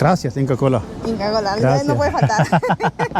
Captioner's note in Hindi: स्पेनिश बोलते हुए